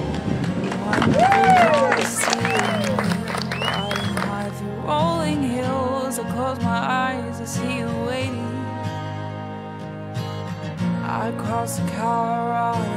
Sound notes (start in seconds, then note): 0.0 everyone clapping